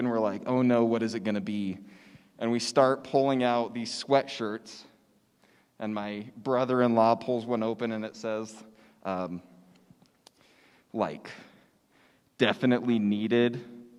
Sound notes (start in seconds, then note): none